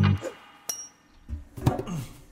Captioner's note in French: efforts